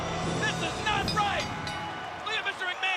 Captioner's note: bell rings